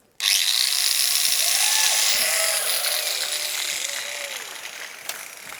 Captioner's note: noise of a angle grinder